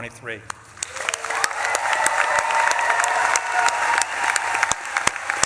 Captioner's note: audience claps and cheers